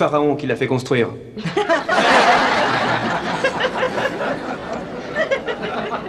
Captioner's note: laughter